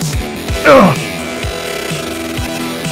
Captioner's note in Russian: Охает